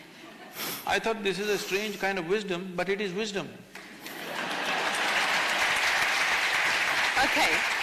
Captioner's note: laughter/Applause